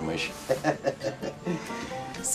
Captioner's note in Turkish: Gülme sesi